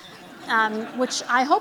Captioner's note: laughter